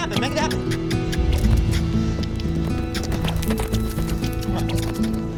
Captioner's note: clicking tongue